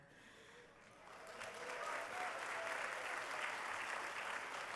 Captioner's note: applause